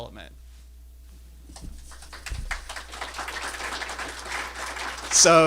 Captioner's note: applause